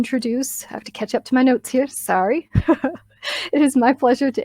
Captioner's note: laughs